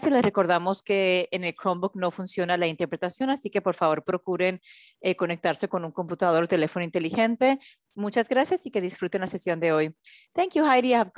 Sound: continues in Spanish

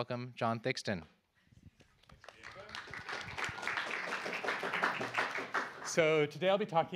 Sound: applause

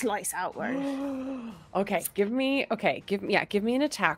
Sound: gasps

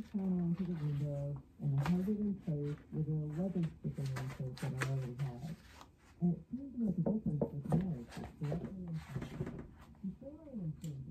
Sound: audio from speaker

